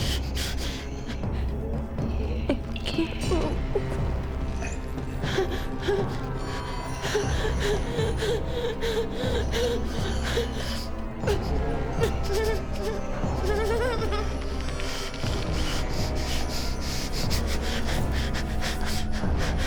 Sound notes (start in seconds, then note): 0.1 Claire whimpering; 5.6 Claire gasping; 11.2 Claire whimpering